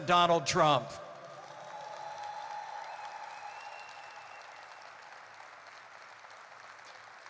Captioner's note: applause